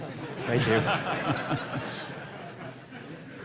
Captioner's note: laughter